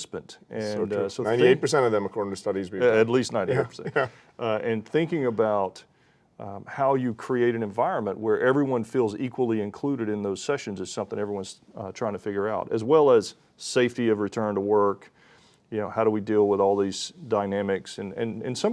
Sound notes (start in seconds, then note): 3.4 chuckles